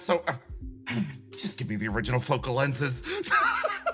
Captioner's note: sigh; laugh